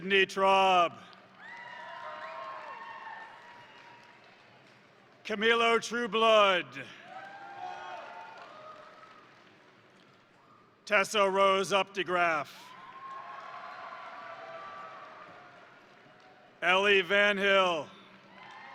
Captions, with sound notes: Sydney Traub, (crowd cheering) (crowd applauding) Camilo Trueblood, (crowd cheering) (crowd applauding) Tessa Rose Updegraff, (crowd cheering) (crowd applauding) Ellie Vanhille,